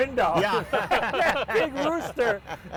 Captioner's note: group laughs